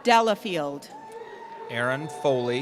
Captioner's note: cheering